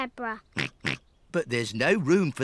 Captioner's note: snorts